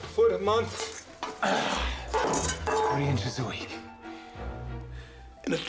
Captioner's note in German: Grunzt